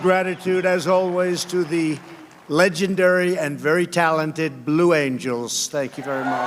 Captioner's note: applause